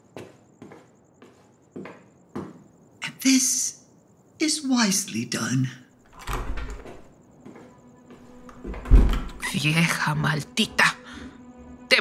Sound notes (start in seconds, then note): 0.1 footsteps departing; 6.0 door opening; 8.3 door closing